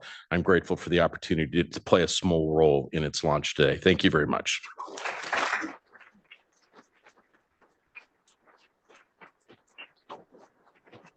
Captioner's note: applause